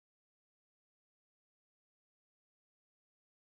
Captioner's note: none